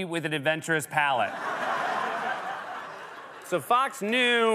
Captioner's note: laughter and applause